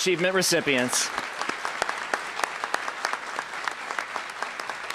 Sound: applause

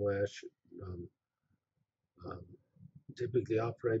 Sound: pause

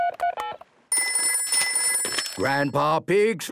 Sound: dial tones beeping; ringing

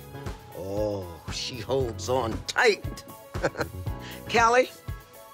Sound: chuckles

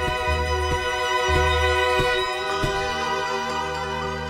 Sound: footsteps pounding

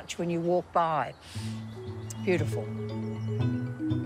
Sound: sniffs

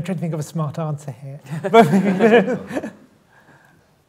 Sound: laughter

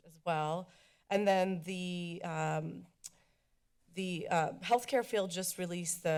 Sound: clicks tongue

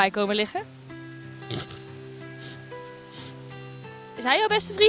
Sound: makes pig noises

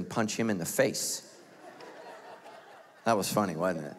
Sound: laughs

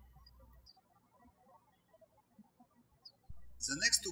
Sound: birds chirping

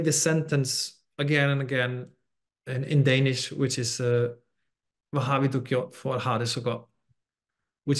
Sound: speaks danish

